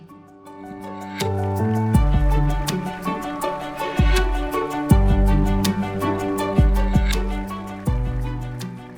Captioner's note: applause